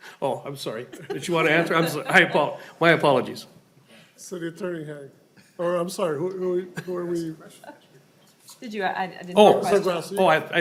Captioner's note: laughing